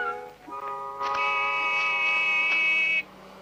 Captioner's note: car horn